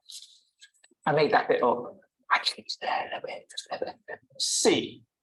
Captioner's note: whispering